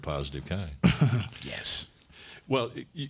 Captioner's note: laughs